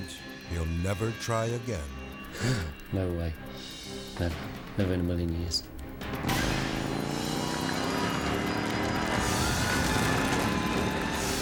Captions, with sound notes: he'll never try again. - No way, never, never in a million years. (motorbike revving) (people cheering) (dramatic music)